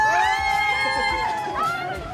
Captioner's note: cheers